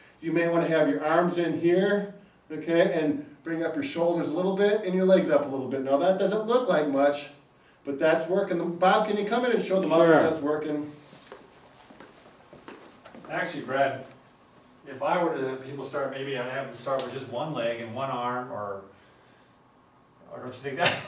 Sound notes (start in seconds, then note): 11.1 footsteps pattering